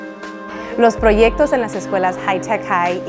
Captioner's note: speaking spanish